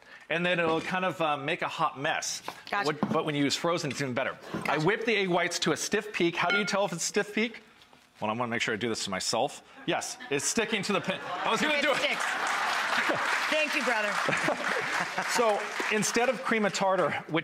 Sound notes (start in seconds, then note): 10.0 laughter; 11.4 applause